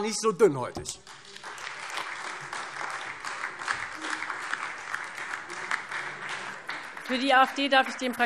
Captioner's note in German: Beifall Freie Demokraten und vereinzelt AfD